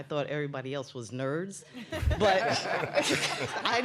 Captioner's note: laughter